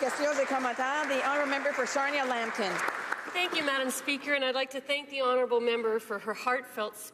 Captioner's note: applause